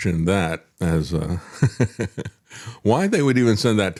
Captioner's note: laugh